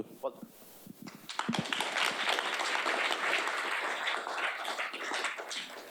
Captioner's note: audience applauding